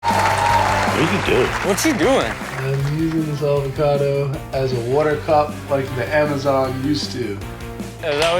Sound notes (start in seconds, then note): 0.0 audience cheers